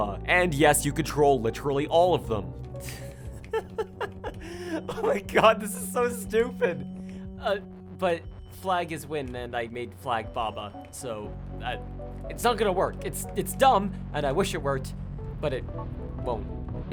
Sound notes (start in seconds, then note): 2.8 giggling